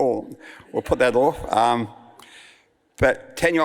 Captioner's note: audience laughs